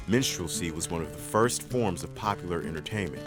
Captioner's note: voiceover